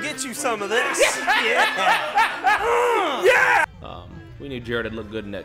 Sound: men laughing

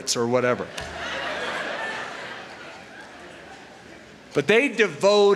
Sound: laughter

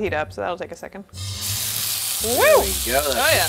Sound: pans sizzling

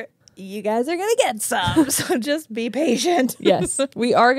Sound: laughs

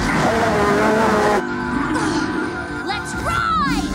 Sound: Charlie screeches; Razzle and Dazzle roar

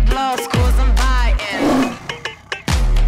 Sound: tiger roars

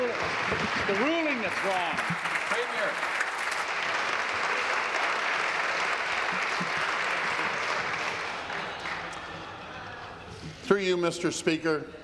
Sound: applause

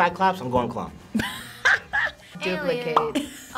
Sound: React laughs

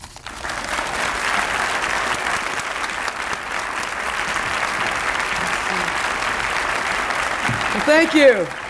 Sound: audience applause

